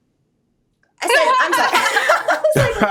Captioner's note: Michael chuckling